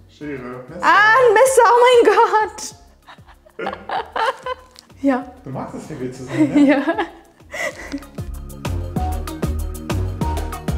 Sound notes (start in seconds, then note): 2.9 both laughing; 6.0 laughing